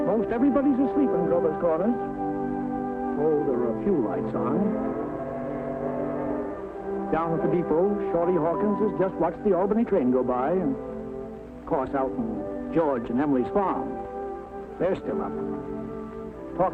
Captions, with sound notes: - Most everybody's asleep in Grover's Corners. Oh, there are a few lights on. (train whistle blowing) Down at the depot, Shorty Hawkins has just watched the Albany train go by. Of course, out in George and Emily's farm, they're still up.